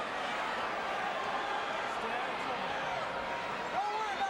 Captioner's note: crowd chattering